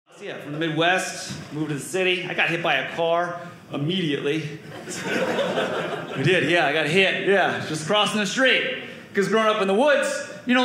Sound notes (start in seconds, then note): 4.7 audience laughing